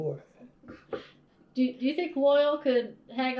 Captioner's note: laughs